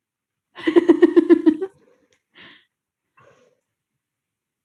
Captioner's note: laughs